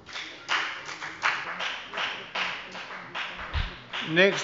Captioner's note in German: Beifall bei der FDP